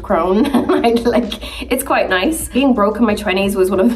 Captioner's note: Nicola laughing